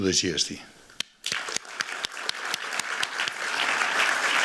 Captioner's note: applause